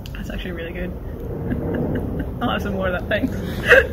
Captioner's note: laughs